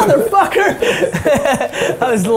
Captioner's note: laughing